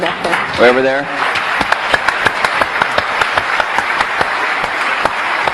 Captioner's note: applause